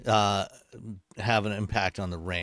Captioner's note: none